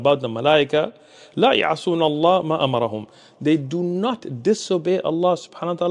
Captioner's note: Arabic